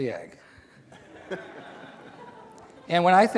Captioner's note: laughter